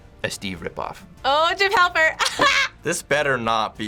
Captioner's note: laughs